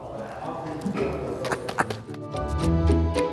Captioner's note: chuckles